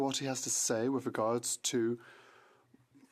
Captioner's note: speaking FRENCH